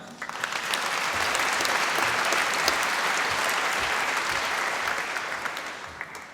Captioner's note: applause